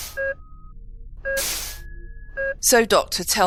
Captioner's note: doors swish